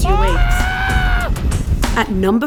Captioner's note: screams